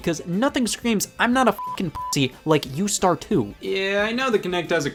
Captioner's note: beep